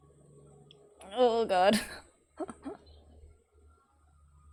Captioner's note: laughs